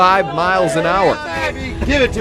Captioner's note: cheers